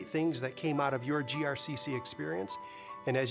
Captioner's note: none